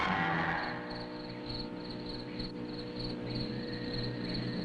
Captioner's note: crickets chirping